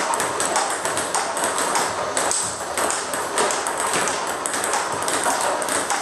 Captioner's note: ball ping pong hitting continues